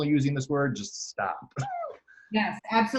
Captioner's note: laughs